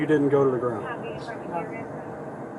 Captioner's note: radio chatter